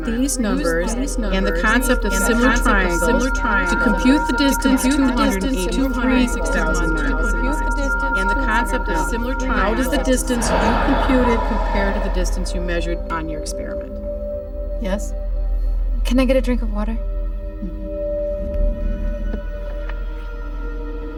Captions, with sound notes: USE THESE NUMBERS AND THE CONCEPT OF SIMILAR TRIANGLES TO COMPUTE THE DISTANCE. ( echoing ) HOW DOES THE DISTANCE YOU COMPUTED COMPARE TO THE DISTANCE YOU MEASURED ON YOUR EXPERIMENT? YES? CAN I GET A DRINK OF WATER? MM-HMM.